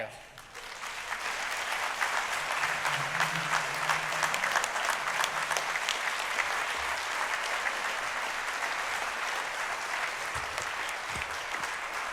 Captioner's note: applause